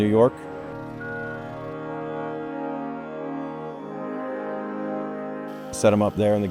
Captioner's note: soft music; truck beeping